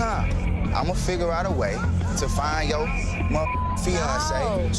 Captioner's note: beeps